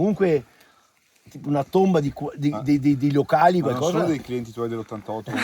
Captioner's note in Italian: risate